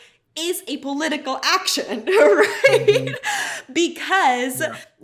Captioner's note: laughs